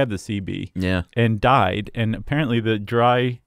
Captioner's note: voiceover